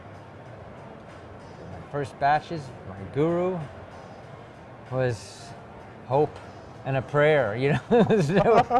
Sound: laughs

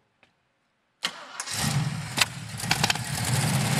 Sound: engine starts

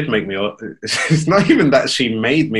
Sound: laughs

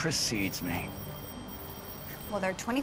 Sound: ringing

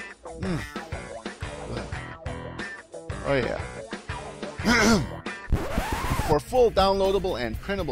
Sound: ahem

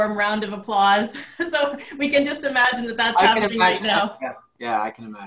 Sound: everyone's screens are shown with multiple individuals clapping

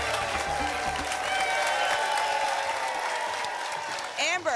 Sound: applause and cheering cont

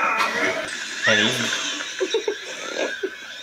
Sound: laughs

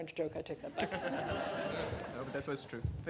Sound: laughter

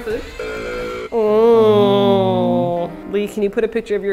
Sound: sad noises

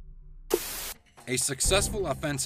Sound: dramatic music; static buzzing

